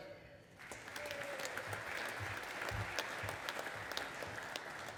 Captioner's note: audience applauding